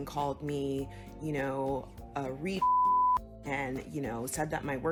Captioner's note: beep